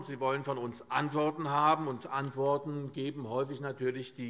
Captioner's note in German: none